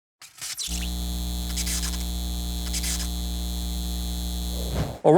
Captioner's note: electric buzz